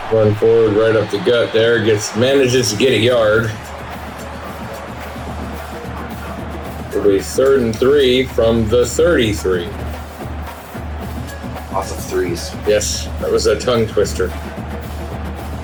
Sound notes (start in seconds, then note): 3.7 crowd Noises; 10.9 crowd Noises; 14.4 crowd Noises